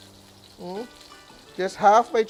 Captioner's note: sizzles